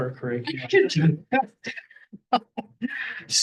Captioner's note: laughter